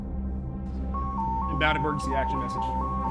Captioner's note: dramatic music; monitor beeping